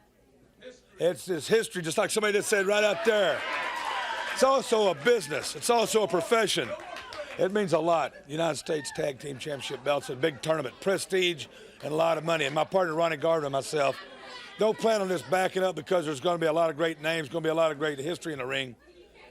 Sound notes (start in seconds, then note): 6.5 crowd cheering